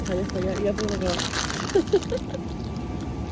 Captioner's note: ASMR intensifies